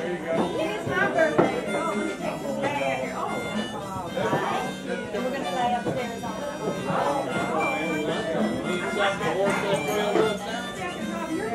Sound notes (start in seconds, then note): 2.2 harmonica music; 2.2 people chattering; 7.7 harmonica music; 7.7 people chattering